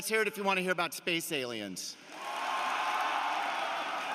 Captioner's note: cheering and applause